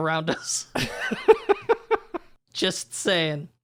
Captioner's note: laughs